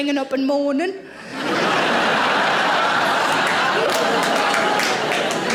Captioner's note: audience laughing